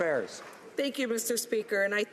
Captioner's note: some Applause